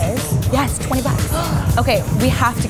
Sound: gasps

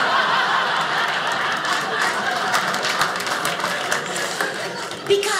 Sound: audience laughing; audience applauding

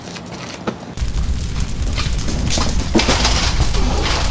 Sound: fire roaring

